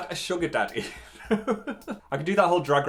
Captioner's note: laughs